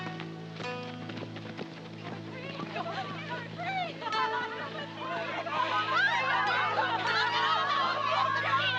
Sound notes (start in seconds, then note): 5.5 laughing